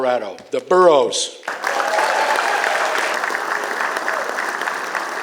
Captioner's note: applause